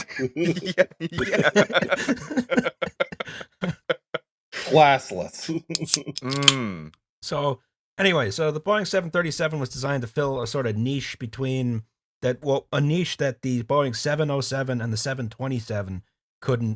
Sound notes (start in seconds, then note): 0.0 laughter; 2.7 TASTY beer can snap